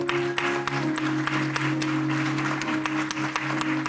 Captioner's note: applause